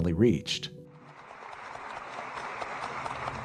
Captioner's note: applause